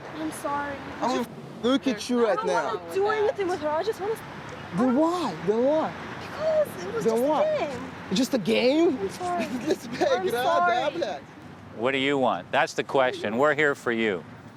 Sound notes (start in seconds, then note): 9.6 speaking russian